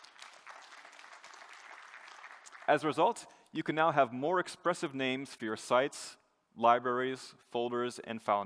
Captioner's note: applause